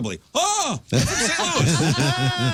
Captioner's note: laughing